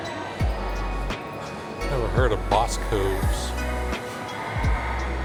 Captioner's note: children chattering